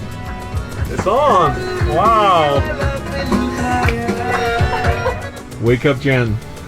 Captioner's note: clapping and laughter